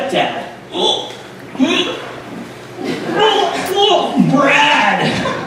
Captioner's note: Johnny making gagging noises